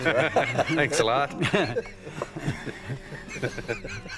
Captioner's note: laughing